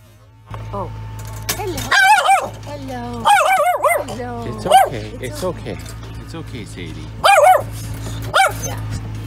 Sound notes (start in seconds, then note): 3.2 scared barking; 7.2 scared barking